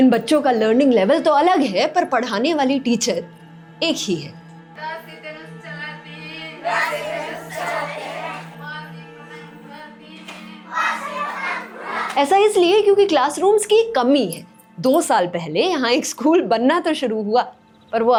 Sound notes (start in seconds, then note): 4.6 teacher reciting a poem